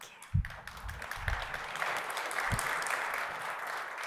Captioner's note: audience applauds